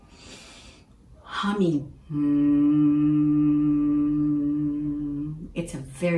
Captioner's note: hums